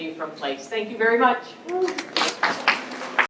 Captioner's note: applause